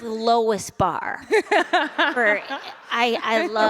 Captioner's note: laughter